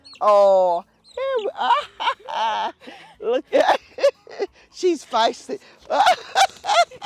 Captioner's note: laughs